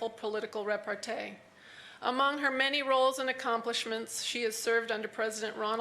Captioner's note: none